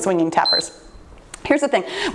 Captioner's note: timer beeps